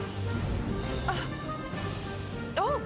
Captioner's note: gasp